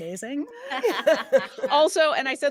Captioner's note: all chuckle